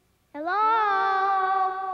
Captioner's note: voice echoing